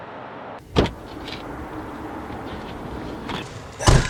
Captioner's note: object thudding